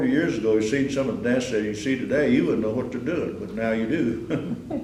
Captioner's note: laughter